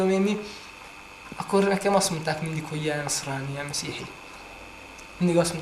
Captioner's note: speaks in Arabic